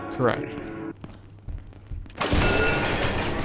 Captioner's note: gunshots